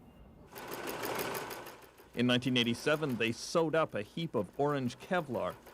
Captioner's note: machine whirring